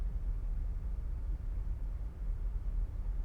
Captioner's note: none